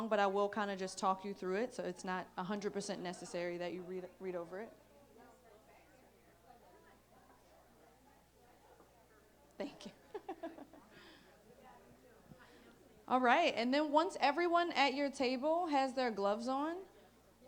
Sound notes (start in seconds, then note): 9.6 laughs